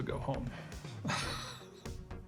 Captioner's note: laughs